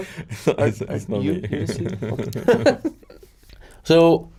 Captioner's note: laughs